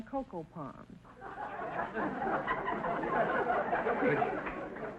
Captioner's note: audience laughter